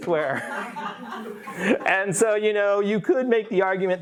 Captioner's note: everyone giggling